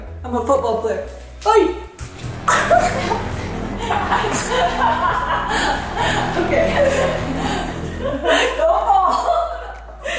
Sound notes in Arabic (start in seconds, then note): 3.0 كلاهما يضحك